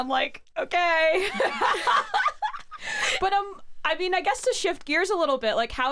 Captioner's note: laughs